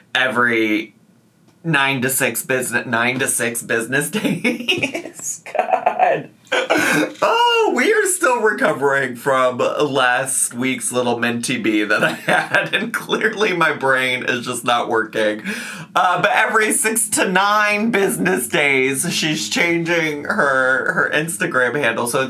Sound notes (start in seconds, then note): 4.1 laughing